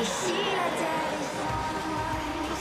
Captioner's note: cheering and Applause